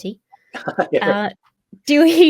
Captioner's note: laughs